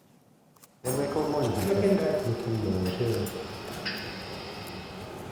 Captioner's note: surgeons chattering